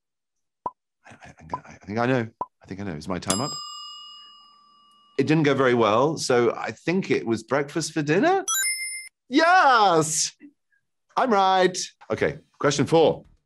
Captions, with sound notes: I think I know, I think I know is my time up? (timer dings) It didn't go very well. So I think it was breakfast for dinner? (chime rings) Yes! I'm right. Okay. Question four.